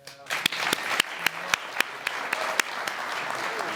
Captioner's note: audience clapping